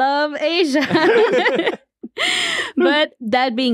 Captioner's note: everyone laughs